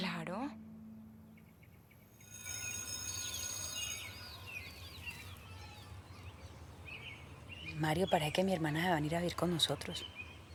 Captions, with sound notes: Of course. [school bell ringing] Mario, it looks like my sister is coming to live with us.